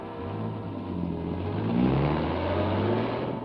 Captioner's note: dramatic orchestral music; engine revs